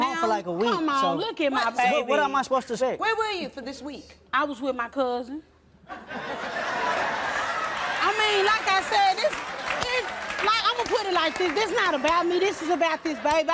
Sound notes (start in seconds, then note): 5.9 audience laughing